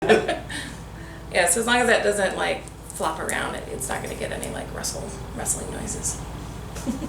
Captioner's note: laughter